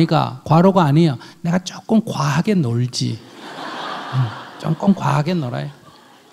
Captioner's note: audience laughs